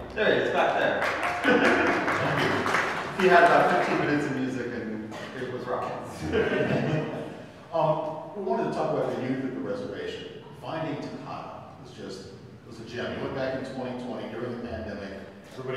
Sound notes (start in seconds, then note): 0.9 audience clapping; 5.8 laughs